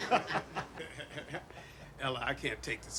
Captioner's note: laughter